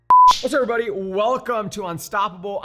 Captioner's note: beep